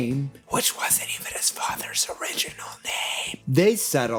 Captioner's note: whispers